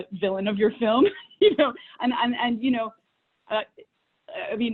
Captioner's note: laughs